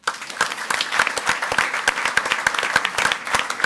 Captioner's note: audience applauds